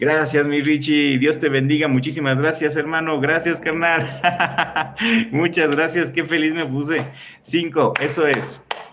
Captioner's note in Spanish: risas